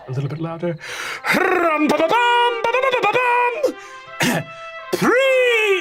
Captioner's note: imitates trumpet music